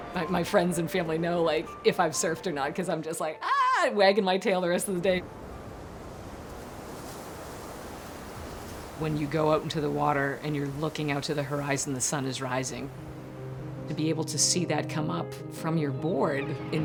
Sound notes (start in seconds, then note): 0.0 gentle piano music continues; 6.3 ocean roaring distantly